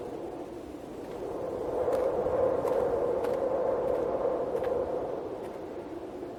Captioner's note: wind whistling continues; footsteps crunching